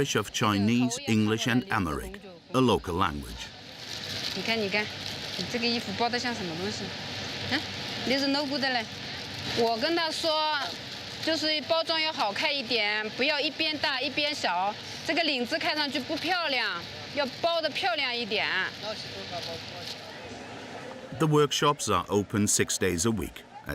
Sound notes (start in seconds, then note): 4.4 woman speaking foreign language